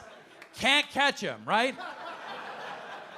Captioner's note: audience laughing